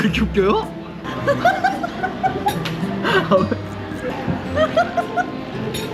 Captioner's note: laughter burst again